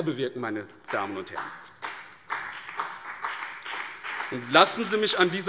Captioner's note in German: Beifall BÜNDNIS 90/DIE GRÜNEN